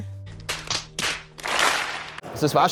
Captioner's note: applause